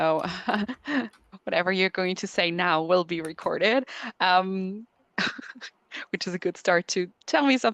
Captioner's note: laughs